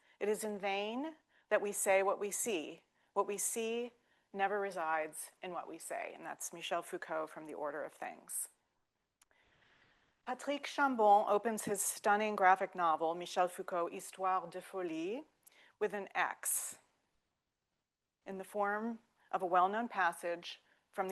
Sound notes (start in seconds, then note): 14.7 speaking French